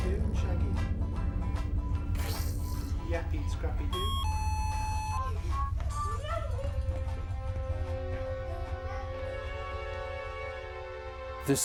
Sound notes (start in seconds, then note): 1.7 light instrumental music; 3.9 beeping; 8.2 ominous music